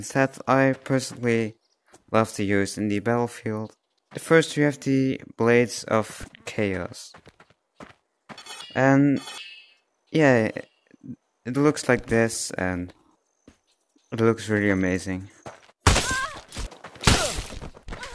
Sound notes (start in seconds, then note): 16.0 scream; 17.0 moan